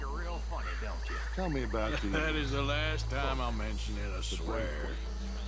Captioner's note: laughs